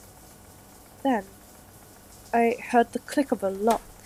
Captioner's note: fx: lock clicking